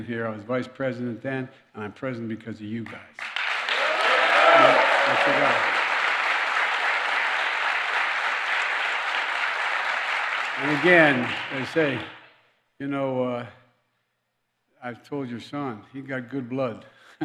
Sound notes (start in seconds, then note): 3.1 applause; 17.0 laughs